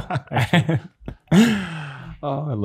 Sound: laugh

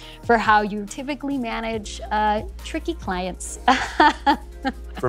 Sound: laughs

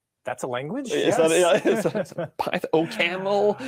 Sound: laughs

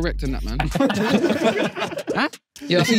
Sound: everyone laughing

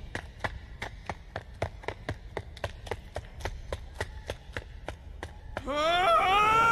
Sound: running; screaming, Wind whistling

